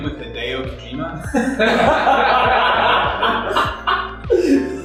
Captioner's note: laughter